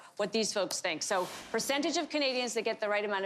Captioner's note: none